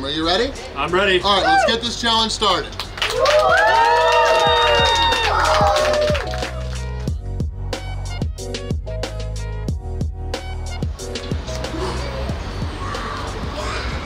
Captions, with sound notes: Are you ready? - I'm ready. - All right, let's get this challenge started. (cheering and applauding) (relaxed instrumental music) (exhales)